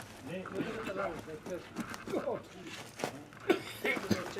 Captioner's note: guy coughs